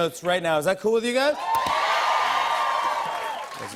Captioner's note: cheers and applause